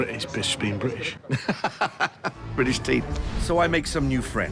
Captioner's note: laughs